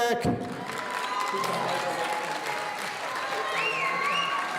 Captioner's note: audience cheering